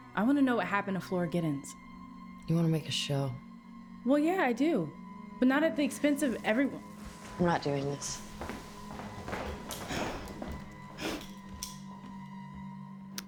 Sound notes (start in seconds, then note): 8.9 footsteps tapping